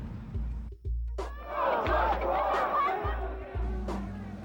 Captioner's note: crowd yelling